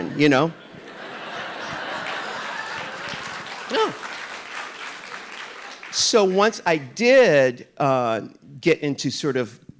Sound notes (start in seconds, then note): 0.0 audience laughing; 1.4 audience applauding